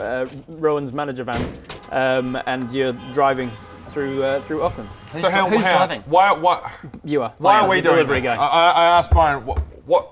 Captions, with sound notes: Rowan's manager van - and you're driving - *traffic jam noises* through, through Auckland So hang on Who's driving? why what you are - why are we doing this? - as the delivery guy I ask Byron what